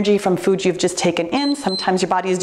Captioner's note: timer beeps